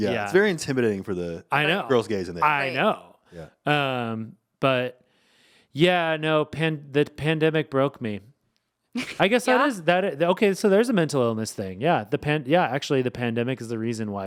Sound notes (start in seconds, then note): 9.0 chuckling